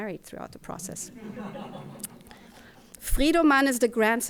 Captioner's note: audience chuckling